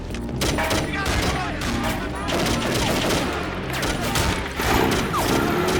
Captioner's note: gunfire clattering; people yelling; engine revving